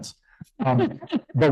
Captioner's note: laughing